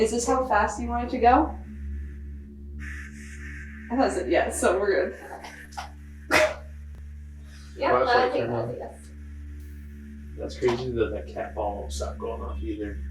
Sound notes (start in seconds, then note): 2.8 static crackling; 6.3 laughing